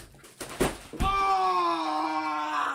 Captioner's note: body thudding on floor